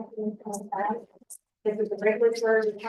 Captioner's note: audio interference